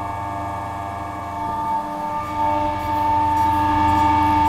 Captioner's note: machine noise